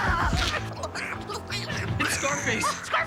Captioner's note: Tasha babbles excitedly